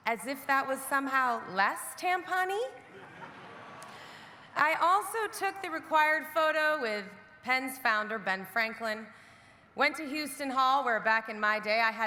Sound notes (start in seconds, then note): 2.8 audience laughing